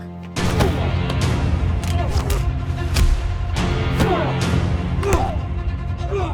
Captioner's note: grunting; smacking; dramatic orchestral music